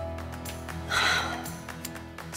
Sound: upbeat music; exhales

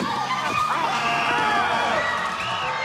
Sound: whistle blows

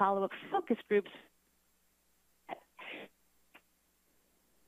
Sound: static

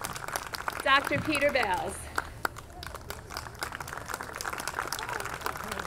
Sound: audience clapping

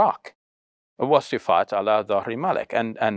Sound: speaks foreign language

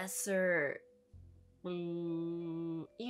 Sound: mouth noise

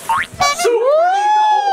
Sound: material rustling; horn beeps

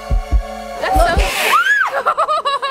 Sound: suspenseful music; screaming; laughing

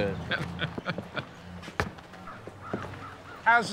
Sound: chuckling

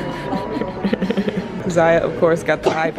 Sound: laughs

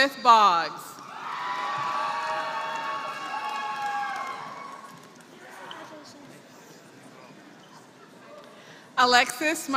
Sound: applause

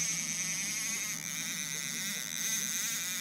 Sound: reel spinning

